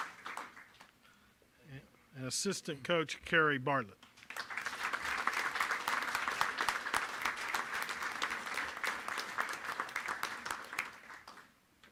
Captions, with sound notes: And assistant coach Carrie Barlett. (applause)